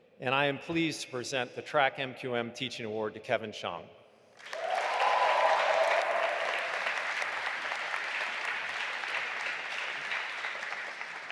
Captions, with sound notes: and I am pleased to present the track MQM teaching award to Kevin Shang. (audience applauding and cheering)